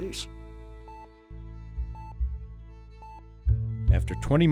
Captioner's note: heart monitor beeping; voiceover